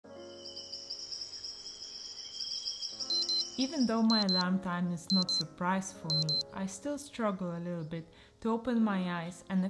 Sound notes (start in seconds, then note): 0.3 alarm beeping; 0.3 soft music